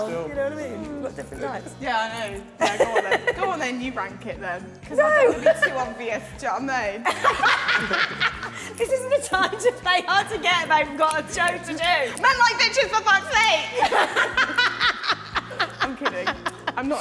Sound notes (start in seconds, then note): 7.1 woman 2 laughing